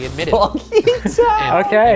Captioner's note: laughs